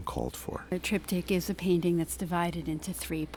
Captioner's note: voiceover